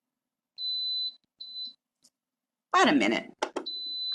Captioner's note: mixer beeping